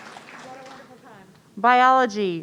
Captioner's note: audience cheering; voice muffling